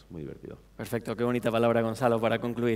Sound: speaking spanish

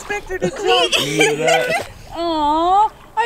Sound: laughing

